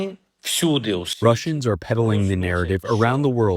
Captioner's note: through translator